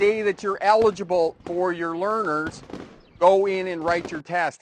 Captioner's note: fireworks pop